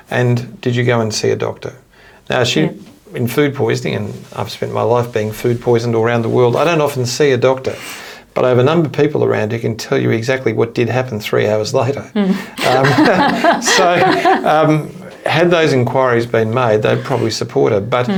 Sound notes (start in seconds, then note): 12.3 both laughing